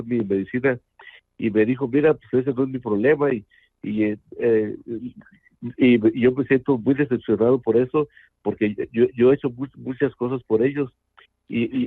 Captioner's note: speaking in Spanish